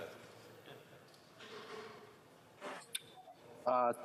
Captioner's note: speaking FRENCH